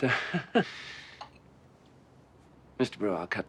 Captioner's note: chuckling